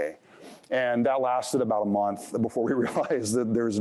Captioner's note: chuckles